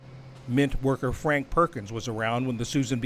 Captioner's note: voice-over